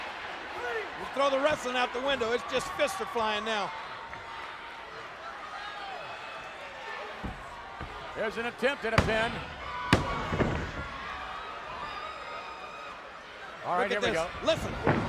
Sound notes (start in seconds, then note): 9.5 hand thudding